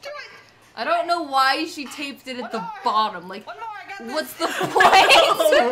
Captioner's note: laughter